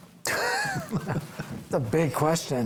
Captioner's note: group laughs